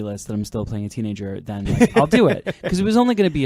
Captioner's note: laughing